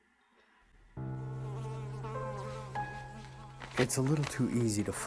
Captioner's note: somber piano music; fly buzzing